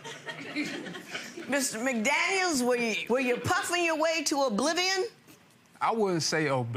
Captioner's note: audience chuckling